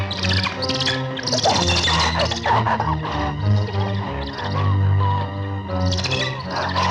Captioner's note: ominous music; bird chittering; Gustaf gasping